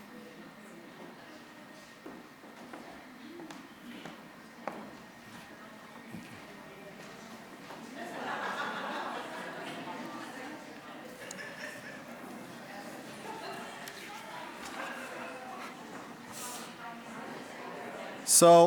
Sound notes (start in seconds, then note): 7.9 audience laughing